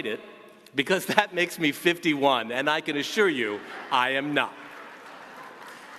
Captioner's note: applause